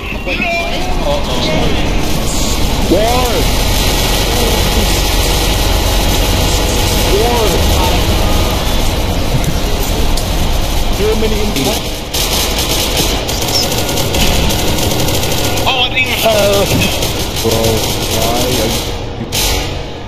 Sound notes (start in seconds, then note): 3.6 deafening Amounts of Gunshots